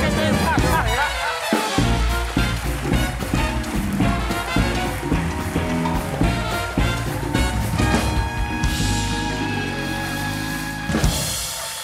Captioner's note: applause